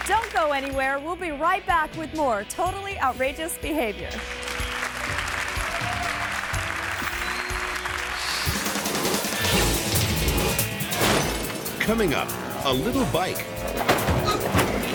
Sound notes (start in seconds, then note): 4.1 audience applauding; 8.7 graphics whooshing; 8.7 upbeat pulsating music; 10.9 glass shattering; 11.0 graphics thump; 13.6 motorbike thuds; 13.8 person thuds